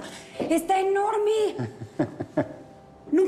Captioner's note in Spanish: Ríe